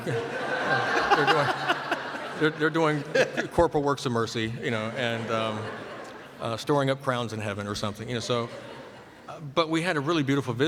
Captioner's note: laughter